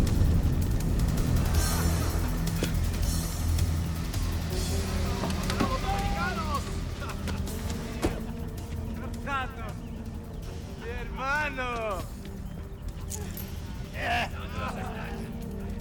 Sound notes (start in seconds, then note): 0.2 ominous music; 4.9 people speaking in Spanish